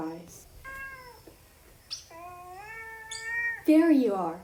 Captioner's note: meowing